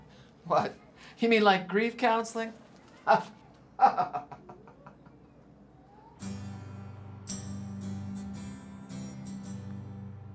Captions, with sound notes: What? You mean like grief counseling? (laughing) (guitar music)